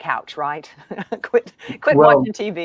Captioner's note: laughs